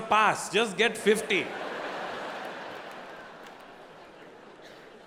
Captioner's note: audience laughing